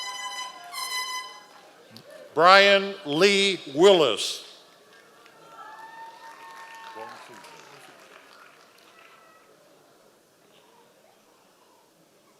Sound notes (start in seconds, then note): 0.5 members of the audience cheering; 4.7 audience applause